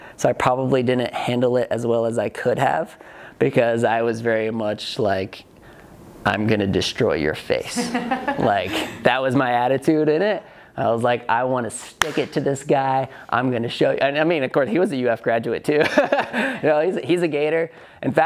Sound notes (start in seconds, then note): 7.7 student laughs; 16.2 laughs